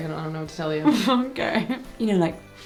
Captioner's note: laughing